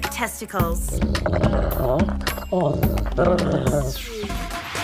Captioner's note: growling